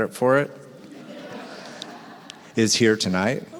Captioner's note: audience laughs